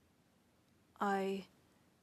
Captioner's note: speaking French